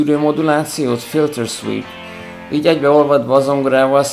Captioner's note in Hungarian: filter sweep